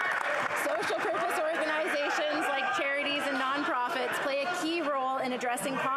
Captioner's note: applause